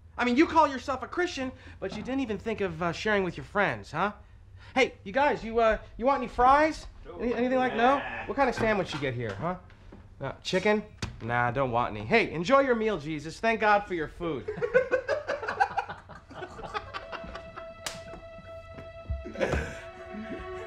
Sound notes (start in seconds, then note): 14.4 laughs; 16.6 anxious violin tones